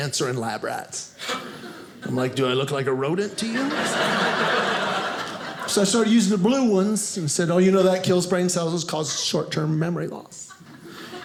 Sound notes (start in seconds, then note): 3.3 audience laughing